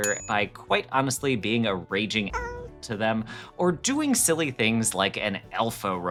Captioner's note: meow